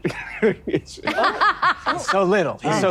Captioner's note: laughing